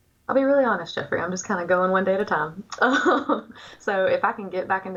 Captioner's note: laughs